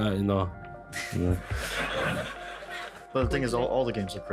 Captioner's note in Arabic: يضحك المراسلون